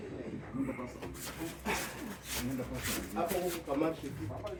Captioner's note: chatter and shuffling